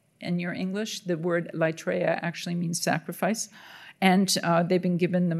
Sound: speaking in Greek

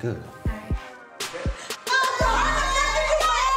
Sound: shouting

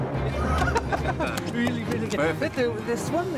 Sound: they laugh

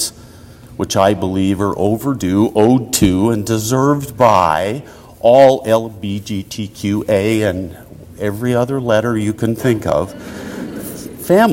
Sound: audience laughter

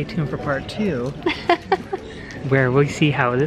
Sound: laughs

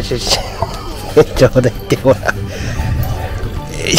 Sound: laughs

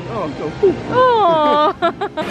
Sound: laughing

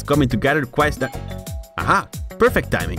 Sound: ding dong

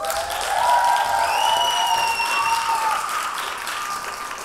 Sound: audience applauding

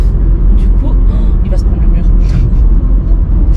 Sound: laughs

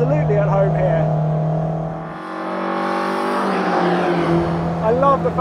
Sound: engine revving

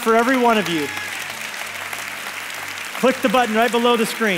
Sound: congregation applauds

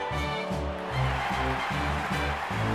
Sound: crowd cheering

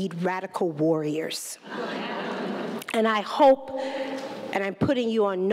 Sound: laughter

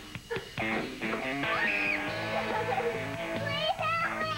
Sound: laughs

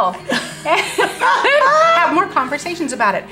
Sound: laughing loudly

